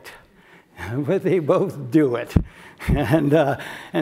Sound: laugh

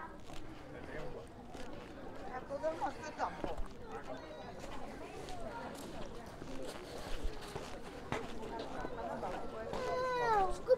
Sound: background chatter

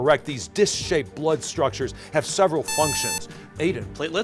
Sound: buzzer

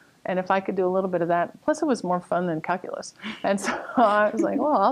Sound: laughter

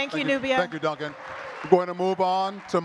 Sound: audience clapping continues

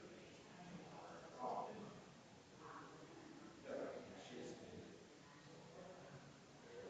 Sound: people chattering distantly continues

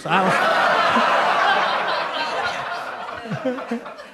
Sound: audience laughing

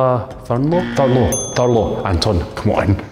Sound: incorrect buzzer; correct bell

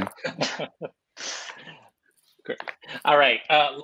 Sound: laughter

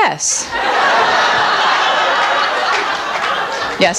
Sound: audience laughs

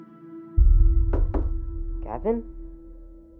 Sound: knocking

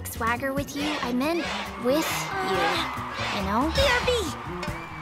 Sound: crowd chanting

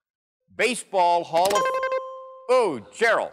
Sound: dings

